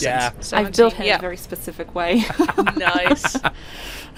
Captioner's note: laughter